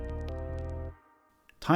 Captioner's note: chill Outro Music; music Stops